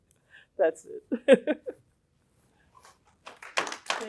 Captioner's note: laughter